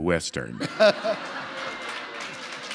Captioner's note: laughter